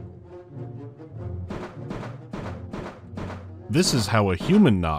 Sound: clank-clank-clank-clank-clank-clank-clank

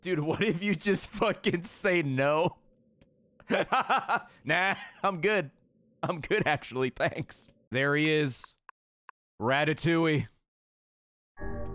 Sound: laughs

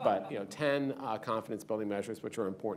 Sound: laughter

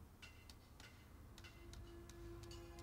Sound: bird chirping

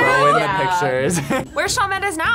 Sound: laughs

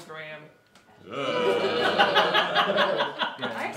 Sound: the room groans and laughs

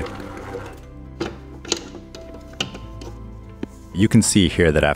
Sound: bowl rattling

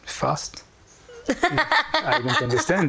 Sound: laughing

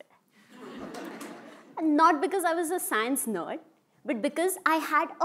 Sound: laugh

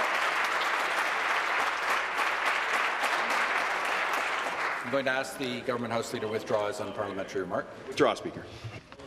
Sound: applause

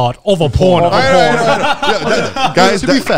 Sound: all laughing

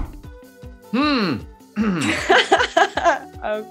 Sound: Sebastian clears throat; Daisy laughs

